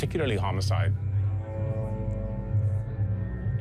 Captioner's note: people chatting